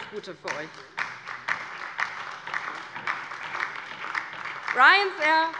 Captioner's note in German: Beifall bei der LINKEN und der SPD